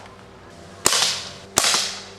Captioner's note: shot